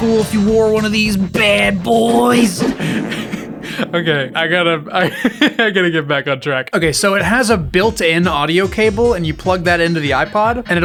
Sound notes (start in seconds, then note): 2.0 fart noise, with incredible reverberation; 2.6 laughs